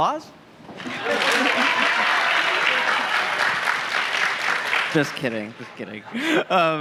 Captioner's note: applause